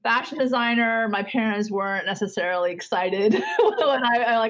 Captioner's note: laughs